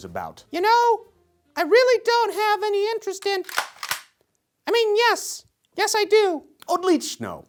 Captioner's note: pistol cocks